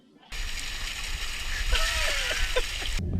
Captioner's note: laughing